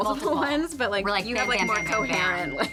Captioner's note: graphics ding